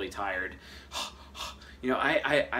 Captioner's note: gasping